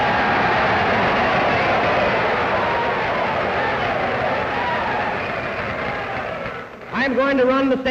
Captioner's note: cheers, applause